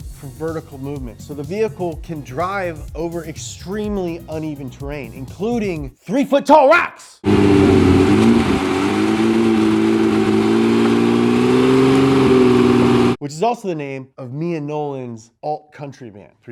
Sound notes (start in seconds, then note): 7.2 engine revving